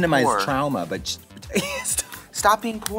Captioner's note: Katya laughs